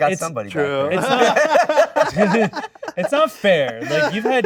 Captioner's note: all laughing